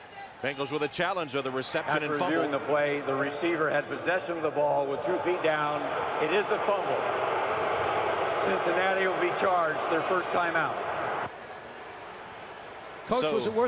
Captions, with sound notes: Bengals with a challenge of the reception and fumble. After reviewing the play, the receiver had possession of the ball with two feet down. It is a fumble. [booing] Cincinnati will be charged their first timeout.